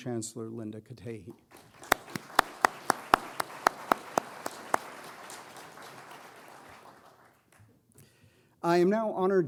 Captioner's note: applause